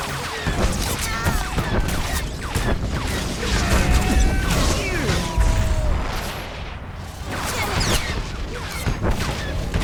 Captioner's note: explosion